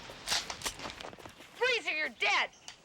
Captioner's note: gun cocking